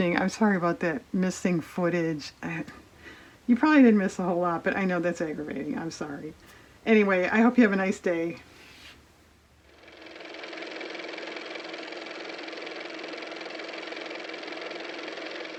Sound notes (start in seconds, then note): 12.2 car motor